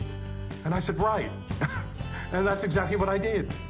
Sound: laugh

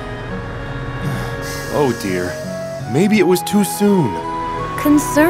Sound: sighs

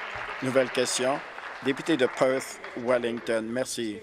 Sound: applause

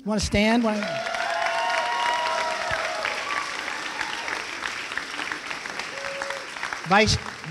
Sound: applause and cheering

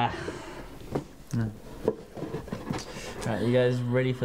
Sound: box clumps softly. mumbles

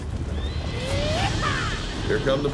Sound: bandits yell

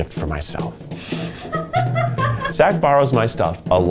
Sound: crew laughing

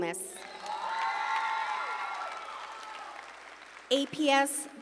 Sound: audience cheering

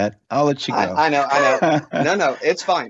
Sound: laughs

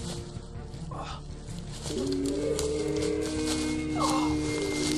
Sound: howl

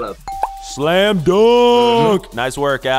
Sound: ding

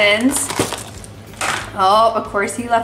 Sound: lid popping

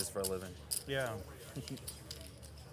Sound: laughs

